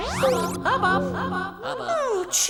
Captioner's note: echoes